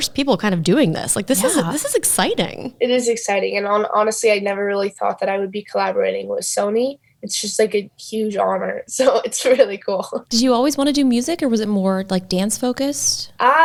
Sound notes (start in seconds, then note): 9.0 giggling